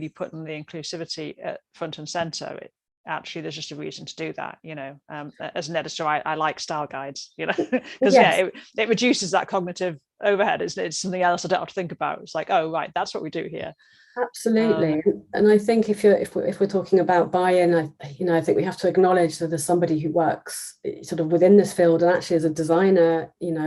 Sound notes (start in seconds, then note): 7.5 laughs